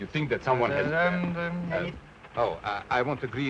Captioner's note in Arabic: يدندن في الحيلة